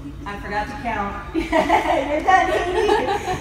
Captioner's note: laughter